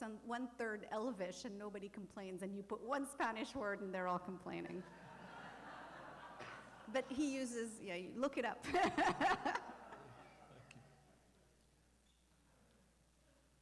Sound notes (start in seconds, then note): 4.8 laughter; 8.7 laughing